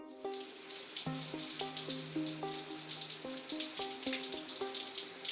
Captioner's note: shower running